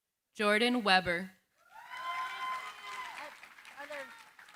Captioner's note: cheering, applause